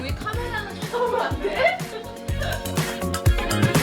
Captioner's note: haha